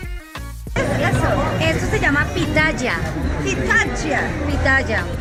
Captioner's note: speaking foreign language